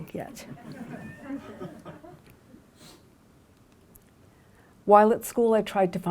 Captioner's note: laughter